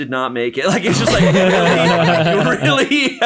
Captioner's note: all laugh